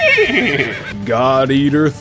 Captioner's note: horse neigh